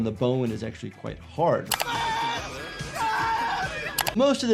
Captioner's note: person screaming